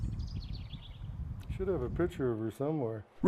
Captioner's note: birds chirping